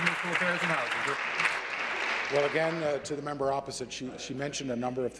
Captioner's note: applause